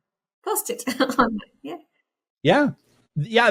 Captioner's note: laughs